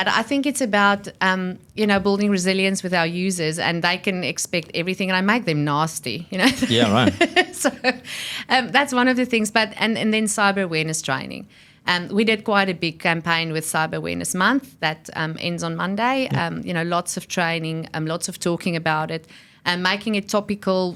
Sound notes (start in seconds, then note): 6.5 laughs